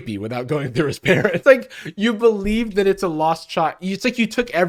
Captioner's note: laughing